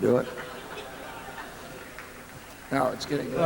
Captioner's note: laughter